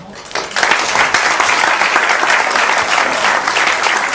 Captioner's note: audience clapping